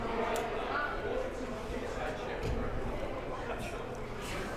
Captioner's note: crowd murmuring